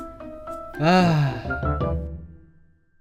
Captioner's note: sigh